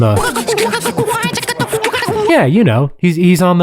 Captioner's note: beatboxing